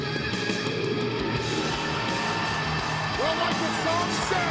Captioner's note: upbeat music; crowd cheering